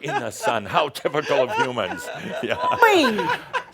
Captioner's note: she laughs